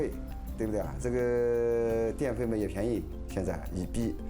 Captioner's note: speaking Chinese